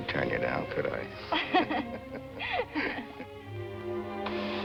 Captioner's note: chuckle